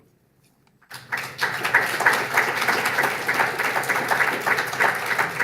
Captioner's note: audience applauds